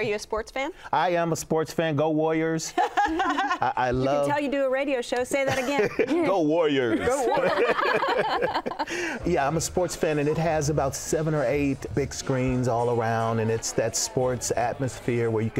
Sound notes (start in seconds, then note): 4.0 laughing; 7.9 all laughing